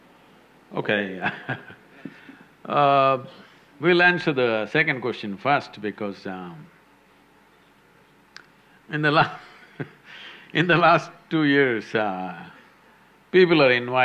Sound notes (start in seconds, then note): 1.7 laughs; 9.0 laughs